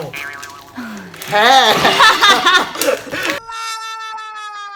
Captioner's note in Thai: เสียงหัวเราะ